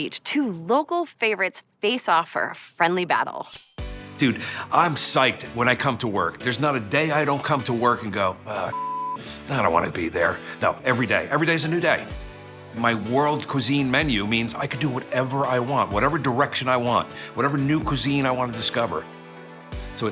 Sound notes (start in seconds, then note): 8.7 beep